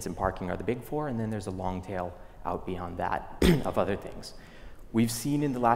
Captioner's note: cough